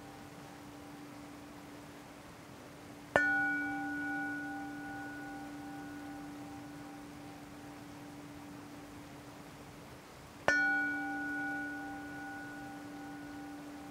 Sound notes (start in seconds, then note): 1.5 bell